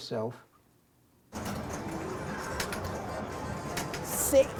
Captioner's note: noisy pinball room